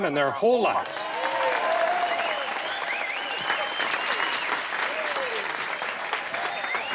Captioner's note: cheers and applause